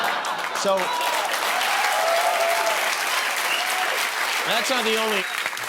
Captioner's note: cheering and applause